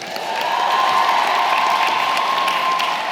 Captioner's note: cheering & applause